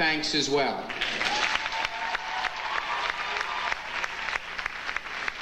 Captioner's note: audience applauding